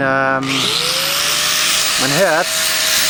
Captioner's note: loud grinding noise